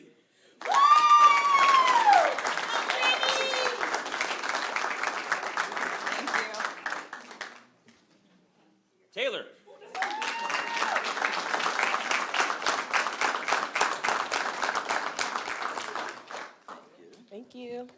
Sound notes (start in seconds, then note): 0.2 applause; 0.6 cheering; 11.0 applause; 11.5 cheering